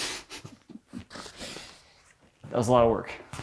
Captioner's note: chuckling